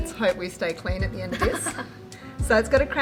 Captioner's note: laughing